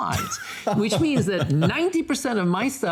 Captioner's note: laughing